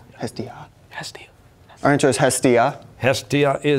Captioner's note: whispering